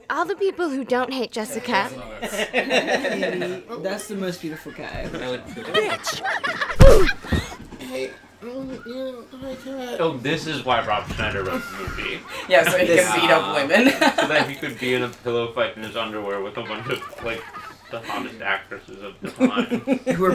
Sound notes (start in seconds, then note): 11.3 laughs